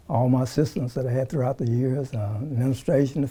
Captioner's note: none